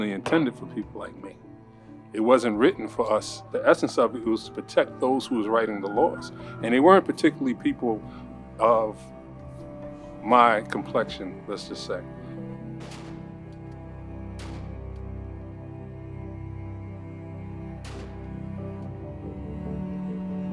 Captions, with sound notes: for people like me, it wasn't written for us. The essence of it, it was to protect those who was writing the laws, and they weren't particularly people of my complexion, let's just say. (soft music) (gun shots)